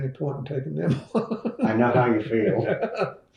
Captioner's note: laughs